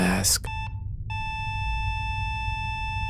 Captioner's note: flat-lining